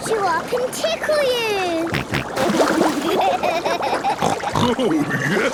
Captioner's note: snorting, giggling